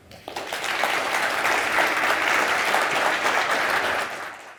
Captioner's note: audience clapping